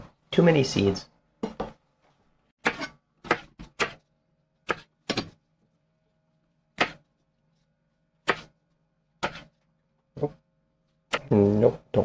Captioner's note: knife cutting